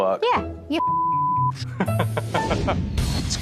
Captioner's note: laughs